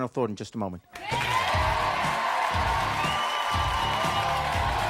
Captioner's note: audience cheering